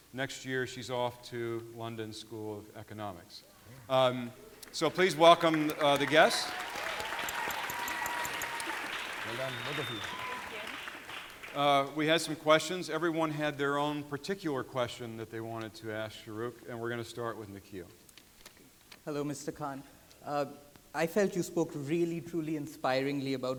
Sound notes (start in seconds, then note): 7.3 audience applauding